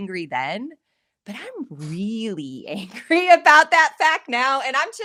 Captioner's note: laughing